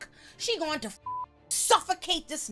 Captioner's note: beep